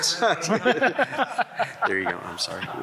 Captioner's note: laughs loudly